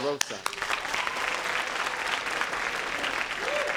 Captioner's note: applause